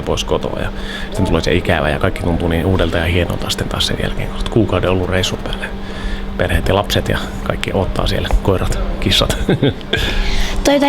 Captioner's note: laughs